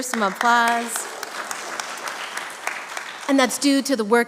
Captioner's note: congregation applauding